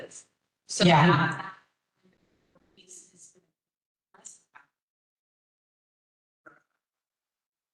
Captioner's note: audio cut